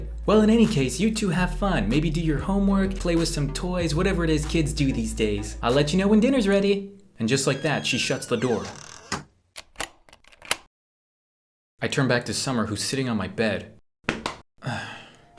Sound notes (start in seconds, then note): 8.9 lock clicks shut; 14.6 sigh